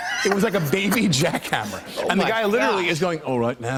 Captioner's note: British accent